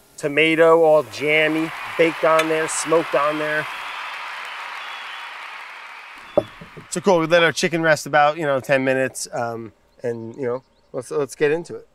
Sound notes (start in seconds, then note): 3.8 crowd applauding